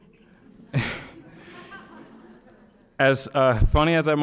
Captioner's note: audience laughing; laughing